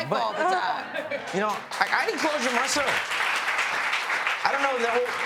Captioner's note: applause